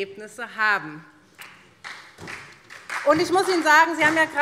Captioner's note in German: Beifall SPD